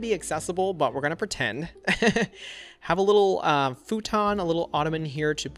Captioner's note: laughs